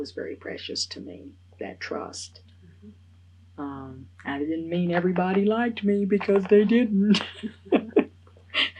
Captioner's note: laughs